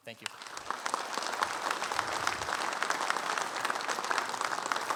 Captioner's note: audience clapping